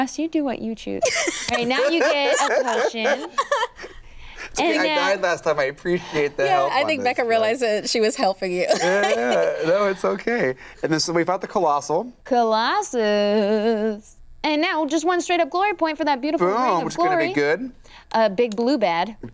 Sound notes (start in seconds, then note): 1.0 laughs; 8.6 laughs